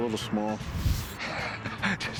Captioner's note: laughs